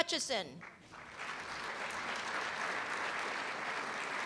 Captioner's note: applause